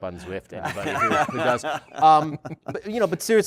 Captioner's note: laughter